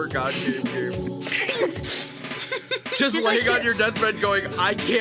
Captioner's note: laughs